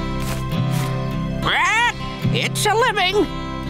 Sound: squawking

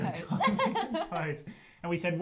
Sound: laugh

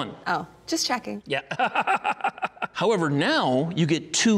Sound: laughing

